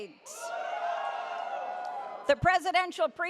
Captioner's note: audience cheers